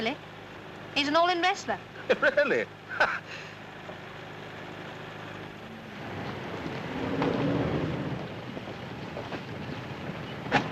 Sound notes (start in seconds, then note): 5.6 chuckles; 10.4 door thuds